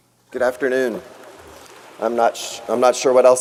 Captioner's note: audience applauds